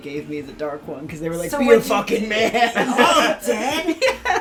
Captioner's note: laughs